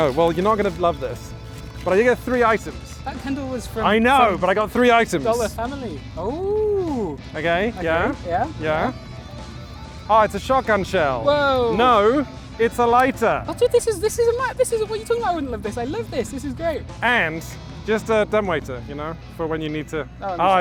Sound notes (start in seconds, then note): 7.8 exclaims excitedly